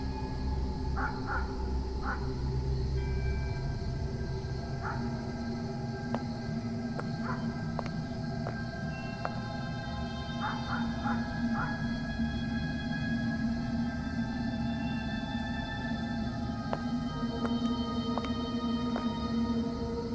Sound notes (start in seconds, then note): 0.1 suspenseful music; 6.9 footsteps; 10.7 suspenseful music; 18.1 footsteps